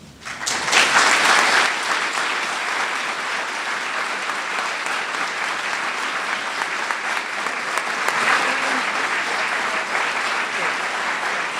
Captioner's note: applause